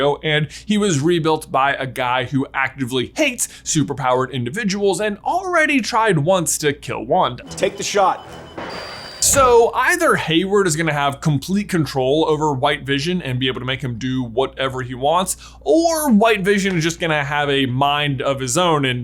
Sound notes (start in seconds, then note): 7.4 computers screeching